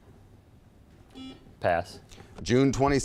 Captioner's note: buzzer beeping